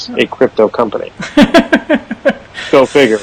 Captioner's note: laughs